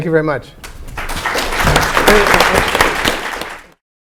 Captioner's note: applause